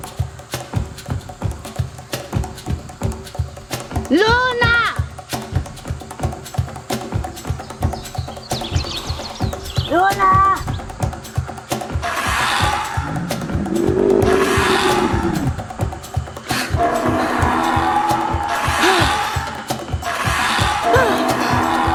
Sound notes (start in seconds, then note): 0.1 upbeat drumbeat music; 12.0 dinosaur squawking; 14.3 dinosaur growling; 20.0 Mika grunting